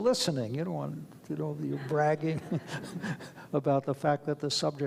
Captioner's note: laughs